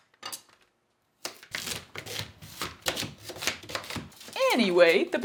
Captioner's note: satisfying chop sounds